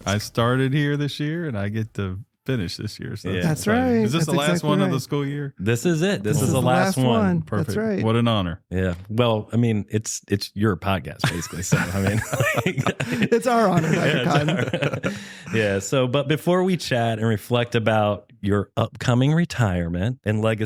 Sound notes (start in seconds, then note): 11.2 laughter